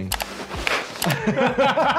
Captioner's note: slapping sound; laughing